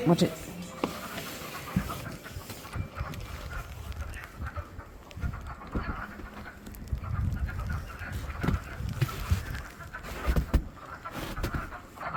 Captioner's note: frogs croaking